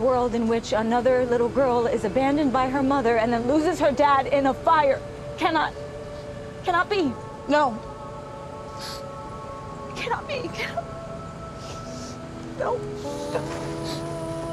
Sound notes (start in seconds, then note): 8.7 sniffles; 9.8 crying